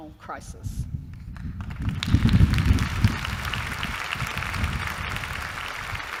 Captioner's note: applause